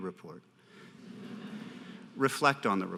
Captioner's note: audience laughter